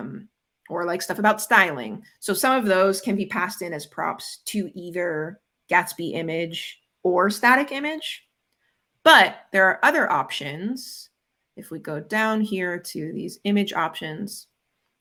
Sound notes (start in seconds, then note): none